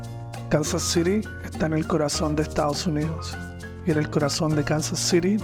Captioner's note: narrator speaking in foreign language